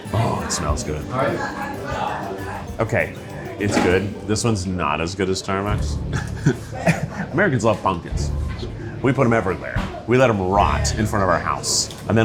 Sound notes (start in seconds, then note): 1.1 gentle upbeat music; 1.1 people chattering; 5.9 chuckles